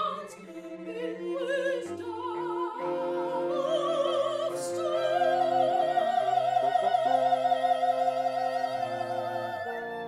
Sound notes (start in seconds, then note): none